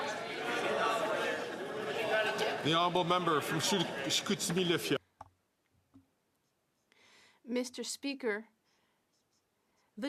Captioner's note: some Applause